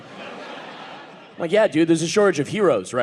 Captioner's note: audience laughing